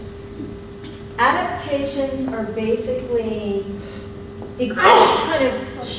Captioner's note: sneezing drowns out speaker